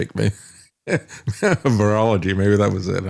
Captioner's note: laughs